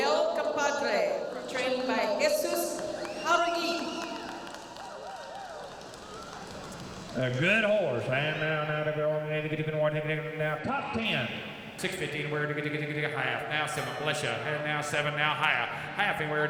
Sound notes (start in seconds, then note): 4.9 cheers and applause; 8.7 auctioneer chanting